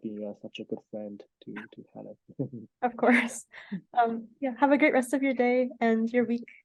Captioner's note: laughs